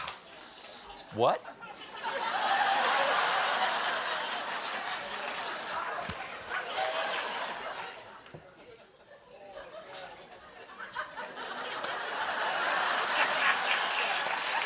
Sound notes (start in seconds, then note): 4.0 cheering; 4.0 laughter; 14.0 cheering; 14.0 laughter